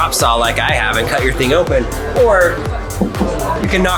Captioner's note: knocks on glass